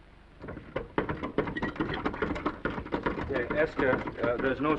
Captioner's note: handle rattling